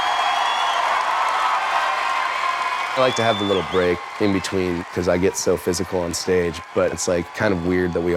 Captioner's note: applause